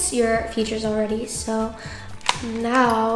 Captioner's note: case clicks